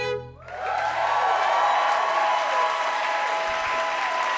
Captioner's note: string instruments playing; audience cheering